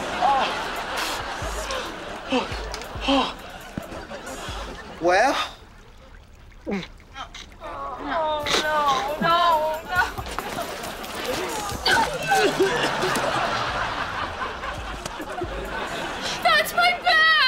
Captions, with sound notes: Well? [gagging] No. No. [vomiting] That's my bag.